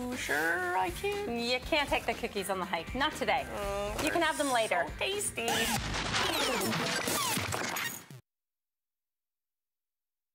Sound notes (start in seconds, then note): 5.7 crashing sound